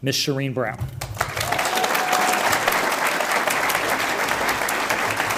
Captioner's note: audience applauds